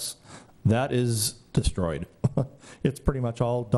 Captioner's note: laugh